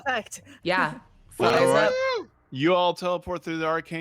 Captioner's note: whooping